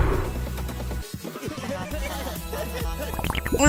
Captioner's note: more giggling